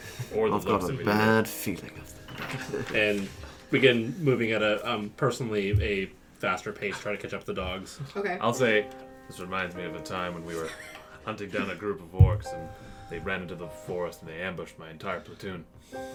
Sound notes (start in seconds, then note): 10.7 laughs